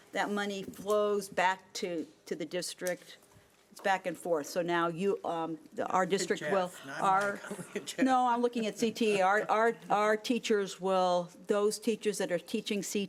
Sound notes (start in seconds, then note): 7.3 speaking faintly